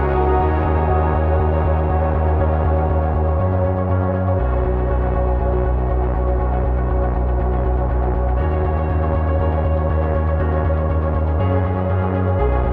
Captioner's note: drone